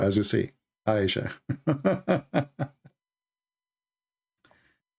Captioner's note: Ketawa